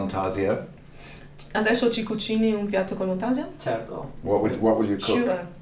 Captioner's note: speaks dialect